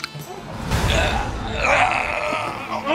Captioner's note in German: Schmerzensschreie